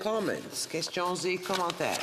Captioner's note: speaking French